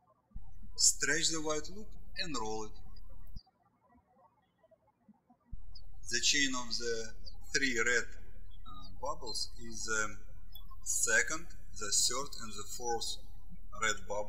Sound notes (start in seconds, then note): 3.6 birds chirping